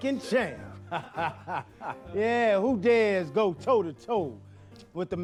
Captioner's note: laughing